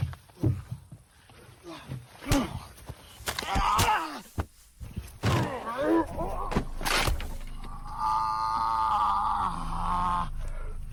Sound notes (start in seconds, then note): 6.5 wood crash